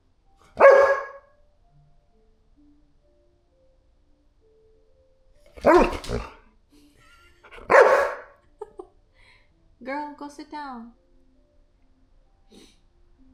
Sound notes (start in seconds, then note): 0.5 barking; 5.6 barking; 5.6 barking and whining